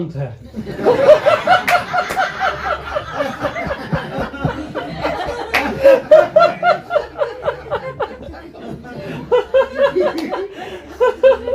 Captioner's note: audience laughter